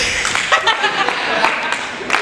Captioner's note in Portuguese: risos